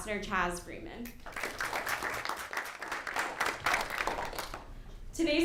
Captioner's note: applause